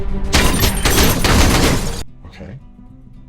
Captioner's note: cartoon character speaking foreign language; glass shattering; gun firing